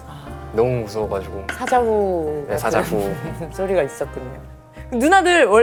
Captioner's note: one lion's roar put the pecking order in place